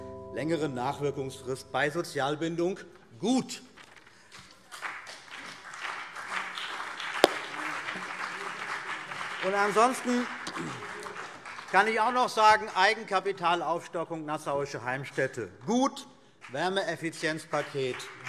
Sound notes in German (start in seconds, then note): 4.2 Beifall CDU und BÜNDNIS 90/DIE GRÜNEN